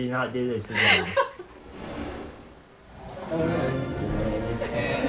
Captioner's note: laughing